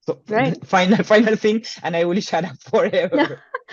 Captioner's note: laughs